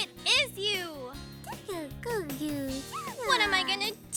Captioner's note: babbling